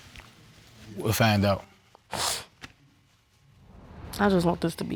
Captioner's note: sniffling